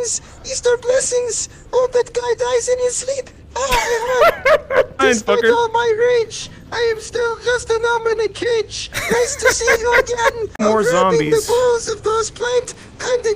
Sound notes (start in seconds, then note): 3.6 laughter; 8.9 laughter